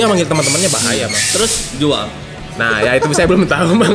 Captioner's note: giggle